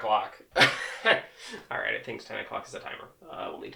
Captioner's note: laughs